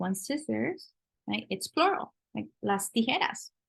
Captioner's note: spanish